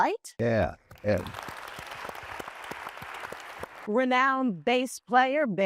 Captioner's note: applause